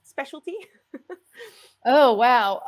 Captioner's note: laughs